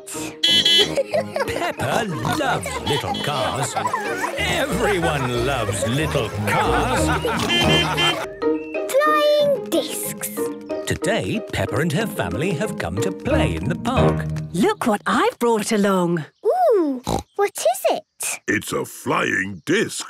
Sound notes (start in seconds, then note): 0.4 beeping and laughing; 6.4 laughter; 7.3 beeping; 17.0 snorting